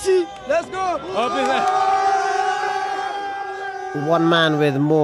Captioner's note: crowd cheering